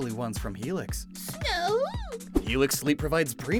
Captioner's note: Adorable little fakemon cry